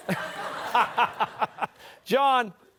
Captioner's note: laughter